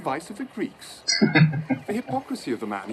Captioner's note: chuckling